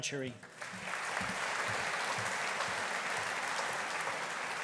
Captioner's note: audience applauding